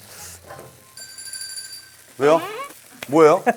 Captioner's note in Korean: 띠로오로오오롱